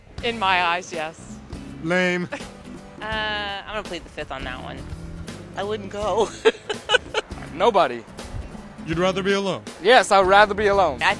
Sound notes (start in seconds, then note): 6.1 laughs